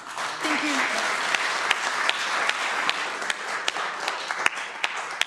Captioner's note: applause